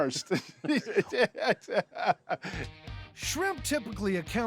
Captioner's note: chuckling